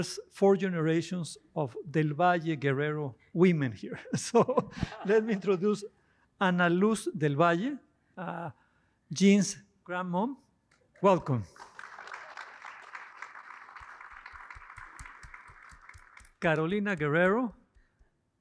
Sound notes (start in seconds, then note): 11.2 applause